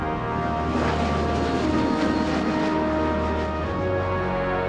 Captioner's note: plane engine roaring